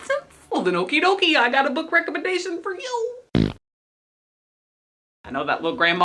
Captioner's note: fart noise